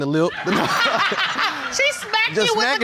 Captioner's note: all laughing